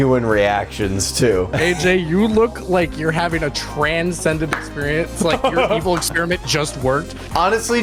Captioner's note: laughs